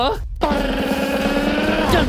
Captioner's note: imitates drumroll